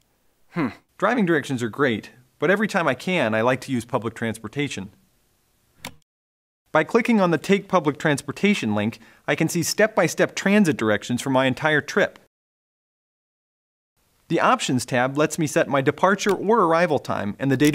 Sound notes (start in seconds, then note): 5.8 click